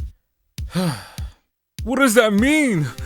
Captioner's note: sigh